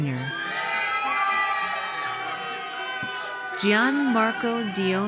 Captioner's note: audience cheers